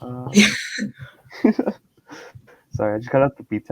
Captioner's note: both laughing